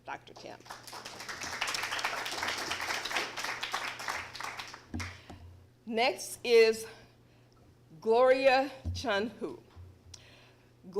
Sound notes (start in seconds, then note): 0.4 applause